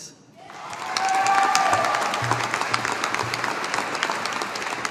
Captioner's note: audience applauding